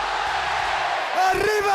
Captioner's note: crowd cheering